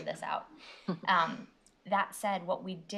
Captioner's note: chuckles